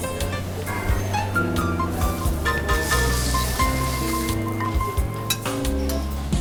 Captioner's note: lively music; people chattering